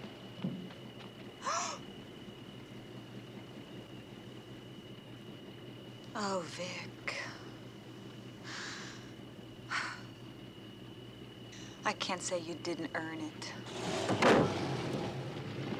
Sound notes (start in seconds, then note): 1.1 gasps; 8.4 sighs